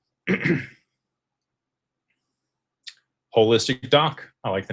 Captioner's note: clears throat